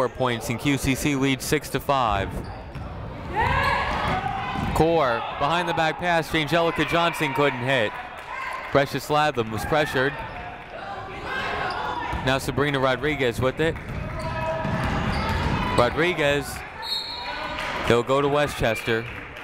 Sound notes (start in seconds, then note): 3.2 people shouting in the crowd; 10.7 people shouting in the crowd; 14.1 people shouting in the crowd; 16.8 whistle tweeting